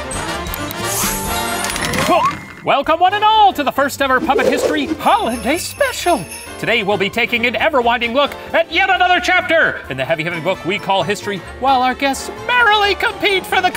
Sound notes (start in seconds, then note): 0.8 clicking, whooshing, beeping; 4.0 whooshing; 5.0 sleigh bells; 8.7 yells